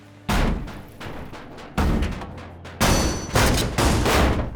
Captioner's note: pounding